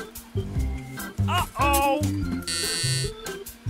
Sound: voiceover; buzzer

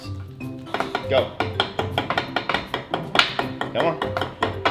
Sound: hammer tapping

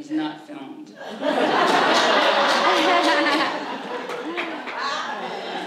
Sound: audience laughs

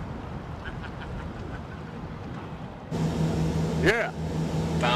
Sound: man laughing

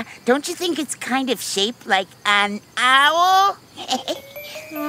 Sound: giggles

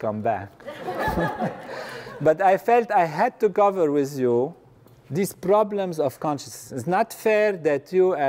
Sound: laugh

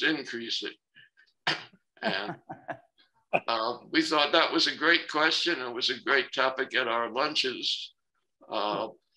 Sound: laughter

